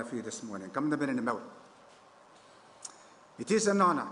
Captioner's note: foreign language